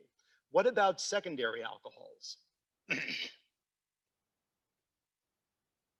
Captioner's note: clears throat